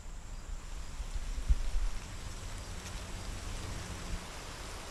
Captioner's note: distant traffic humming